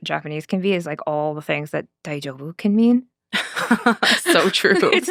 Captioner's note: speaking Japanese